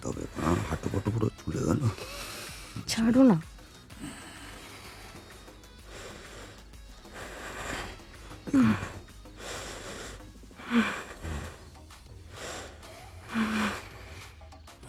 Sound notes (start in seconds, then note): 7.1 moaning continues